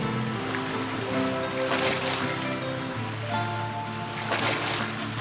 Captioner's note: dolphin splashing